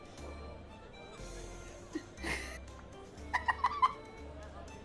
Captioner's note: laughs